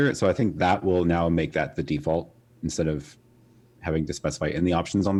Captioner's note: none